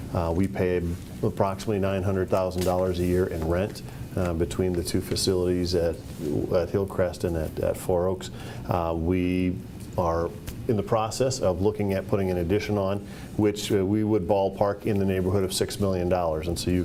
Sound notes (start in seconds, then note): none